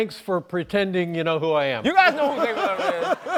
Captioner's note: laughs